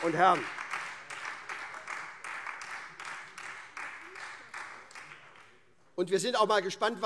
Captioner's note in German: Beifall SPD und DIE LINKE